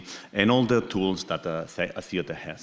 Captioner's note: faintly speaking